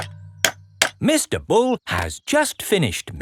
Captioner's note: clanking